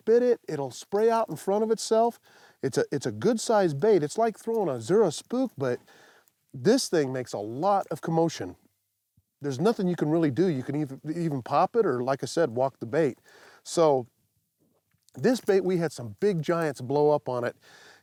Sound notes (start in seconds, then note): none